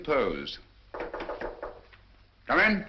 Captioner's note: knocking